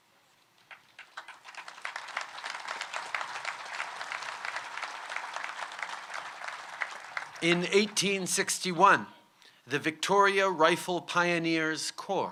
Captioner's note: applause